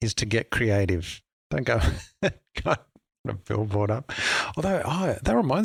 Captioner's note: laughs